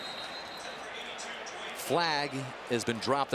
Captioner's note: pa announcement